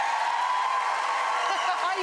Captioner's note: applause